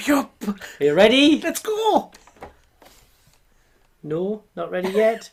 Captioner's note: laughing